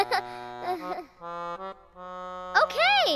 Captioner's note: laughing